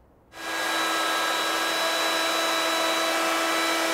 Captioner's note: tool whirring